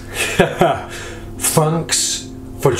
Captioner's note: laughing